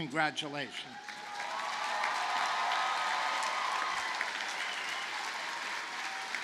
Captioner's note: audience cheers and applauds